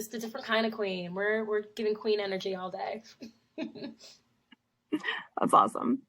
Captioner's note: laughs